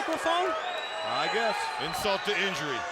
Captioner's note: applause